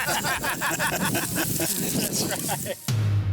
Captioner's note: group laughs